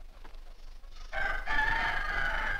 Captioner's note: rooster Crows